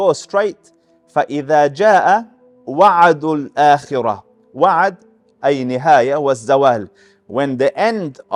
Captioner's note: Arabic